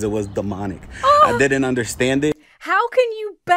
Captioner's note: gasps